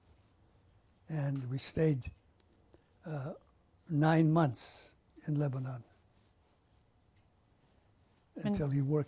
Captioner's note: pauses for 3 seconds